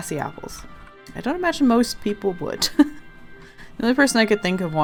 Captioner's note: laughs